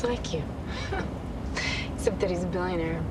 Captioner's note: chuckles